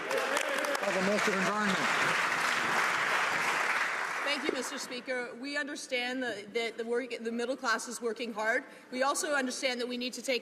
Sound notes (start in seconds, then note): 3.9 some Applause